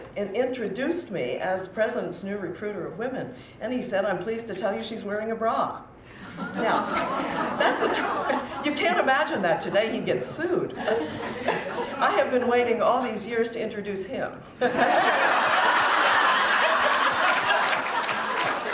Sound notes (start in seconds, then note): 6.2 laughter; 14.6 laughter